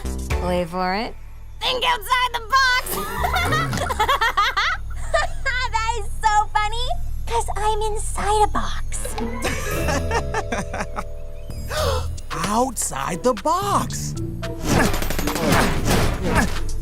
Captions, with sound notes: wait for it… think outside the box! [laughs] [laughs] That is so funny 'cause I'm inside a box. [laughs] [gasps] Outside the box! [grunting]